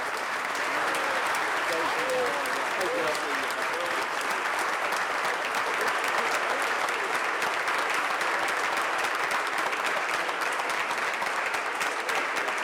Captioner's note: applause